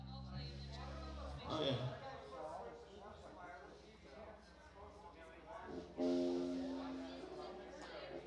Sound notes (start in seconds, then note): 2.6 crowd chattering